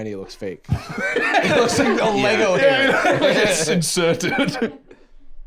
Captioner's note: laughs